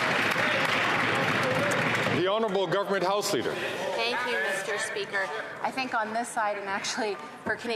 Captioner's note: some Applause